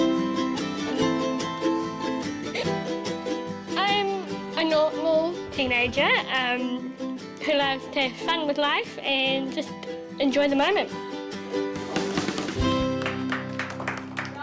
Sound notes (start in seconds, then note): 11.8 class applauds